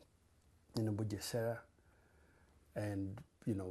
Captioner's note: non-english